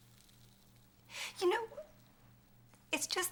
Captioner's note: sobbing